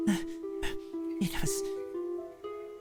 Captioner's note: gasp, gasp